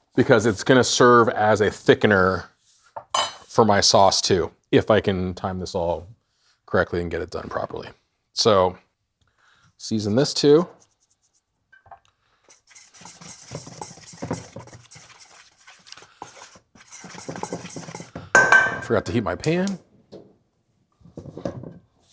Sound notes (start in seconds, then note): 12.4 spoon rustling; 18.4 metal bowl clanking